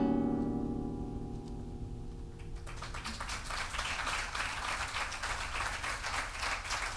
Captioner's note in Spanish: aplausos